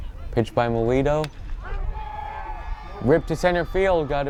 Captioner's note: bat cracks